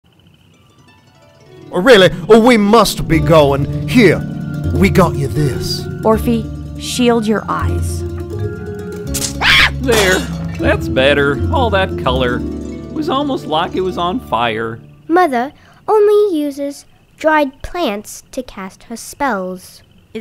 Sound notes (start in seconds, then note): 0.1 whimsical harp; 9.3 scream